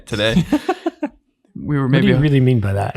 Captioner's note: innocent laughing